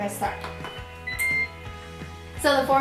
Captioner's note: beep